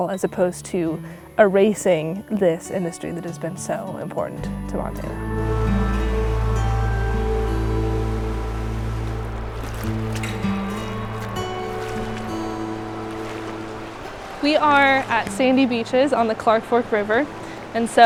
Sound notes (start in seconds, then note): 5.9 gentle music continues; 10.1 water sloshing